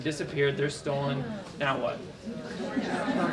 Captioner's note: lots of laughter, talk